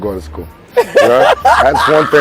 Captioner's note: laughing